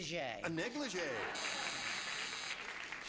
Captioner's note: buzzer